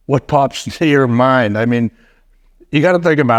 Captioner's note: none